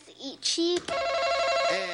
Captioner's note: buzzer buzzes